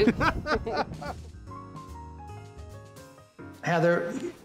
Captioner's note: laughs